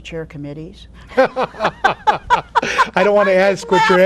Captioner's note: both laughing